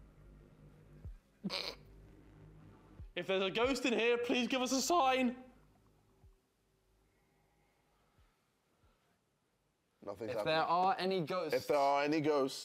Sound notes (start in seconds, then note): 1.4 laughs